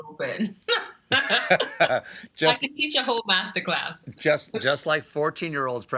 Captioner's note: laughter